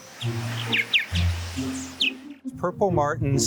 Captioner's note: birds chirping